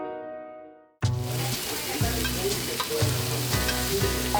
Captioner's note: burgers sizzling; people murmuring; uptempo cheery music